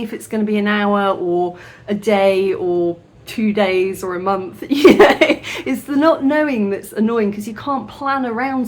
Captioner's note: laughing